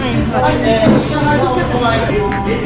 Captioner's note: laughing